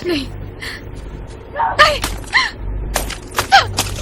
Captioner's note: phone crunches